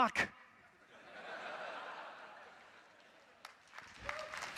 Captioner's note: audience laughing; audience applauding